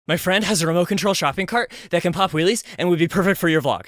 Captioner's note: breathless